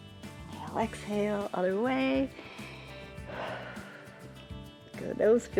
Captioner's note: inhales and exhales